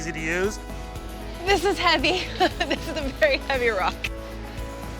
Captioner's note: laughs